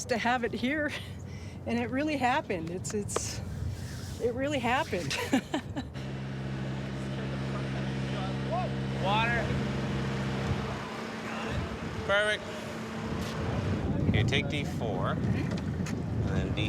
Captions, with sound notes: to have it here and it really happened. It really happened. (people talking) (machinery clanking) - Beric. - Here take D4 and then D3.